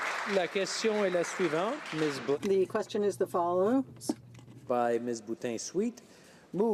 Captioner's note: applause